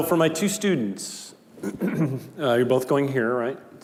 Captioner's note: clears throat